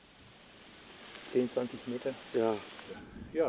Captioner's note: speaking German